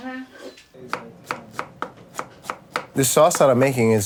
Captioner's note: wood clanks